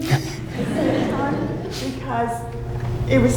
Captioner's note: audience laughing